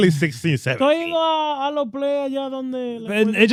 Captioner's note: speaking In Foreign Language